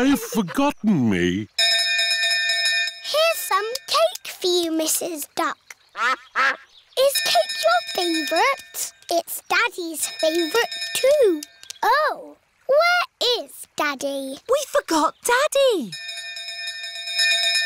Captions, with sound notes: They've forgotten me. -Here's some cake for you, Mrs. Duck. -(QUACKING) I-s cake your favorite? It's Daddy's favorite, too. -(BELL DINGING) Oh, where is Daddy? -We forgot Daddy! -(BELL CONTINUES DINGING)